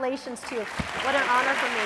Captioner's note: applause